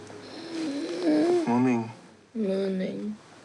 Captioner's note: wheezes